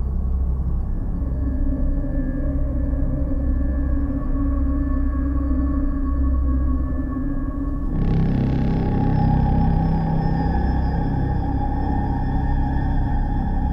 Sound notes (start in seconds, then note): 1.2 dramatic Crescendo; 7.9 jarring Rumble